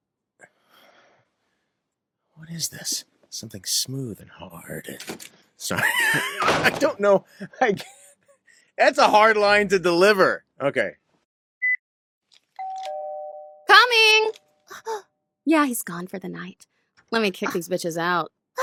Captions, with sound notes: -What is this? Something smooth and hard... Sorry. [laughter] I don't know- I [wheeze] It's a hard line to deliver! Ok- [doorbell rings] -Coming! Yeah, he's gone for the night. Lemme kick these b*tches out.